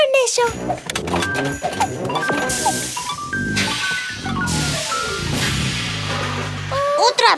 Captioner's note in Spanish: Sonido de maquina